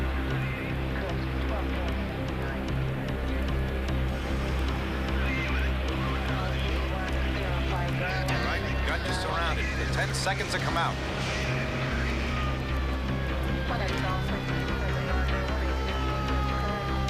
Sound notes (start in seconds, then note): 13.6 siren blaring